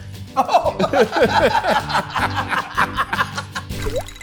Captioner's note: both laughing